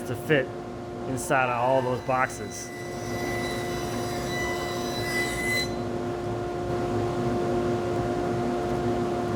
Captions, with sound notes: to fit inside of all those boxes, (saw whirring)